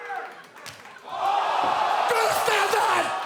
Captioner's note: audience cheers